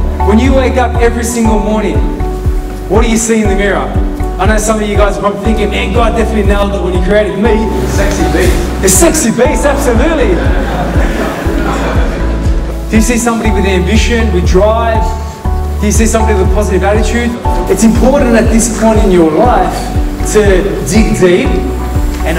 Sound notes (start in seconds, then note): 10.3 laughter